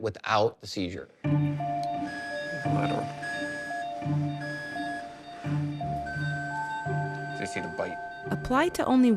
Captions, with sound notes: is produce an effective treatment without the seizure. (device beeping) (beep changes) You see the bite.